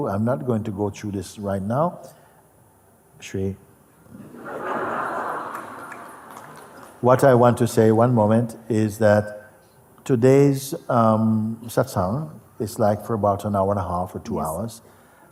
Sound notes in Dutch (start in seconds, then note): 4.1 gelach